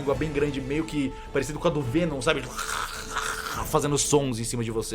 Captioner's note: tongue’s sound